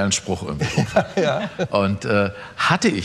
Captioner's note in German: lacht